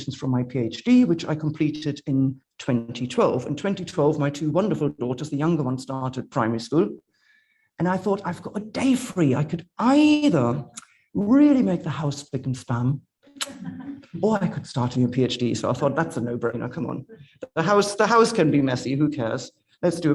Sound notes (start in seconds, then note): 13.6 audience members laughing